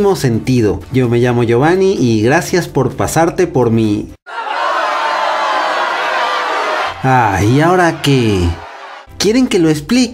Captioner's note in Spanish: Multitud enojada